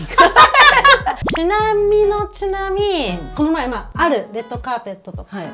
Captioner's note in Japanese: 笑い